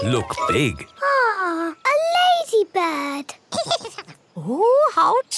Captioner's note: giggles